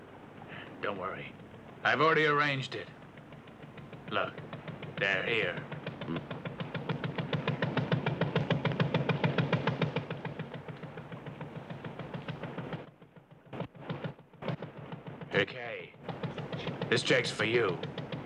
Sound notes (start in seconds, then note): 5.9 rattling engine